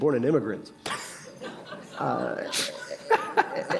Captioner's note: laughter